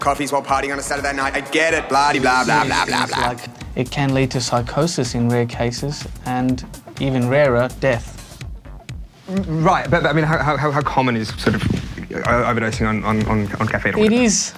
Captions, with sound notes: No-one does 12 coffess while partying. I get it! Blah, blah, blah. (Voice echoes) ..up to serious things, like it can lead to psychosis in rare cases and, even rarer, death. Right, b-b-but I-I-I mean, how... how common is sort of overdosing on... on... on caffeine?